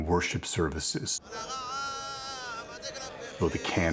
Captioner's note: chanting